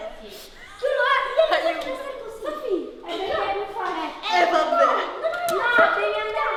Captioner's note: indistinct shouting